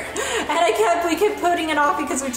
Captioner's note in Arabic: يضحك